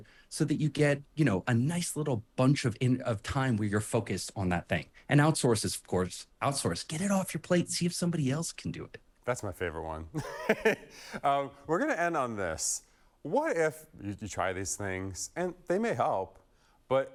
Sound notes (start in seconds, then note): 10.2 laughing